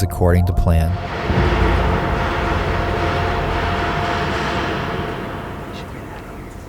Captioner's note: loud banging noises